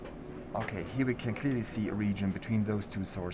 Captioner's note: voiceover